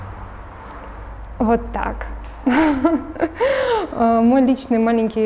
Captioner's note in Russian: смеется